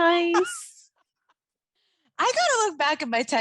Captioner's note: laughing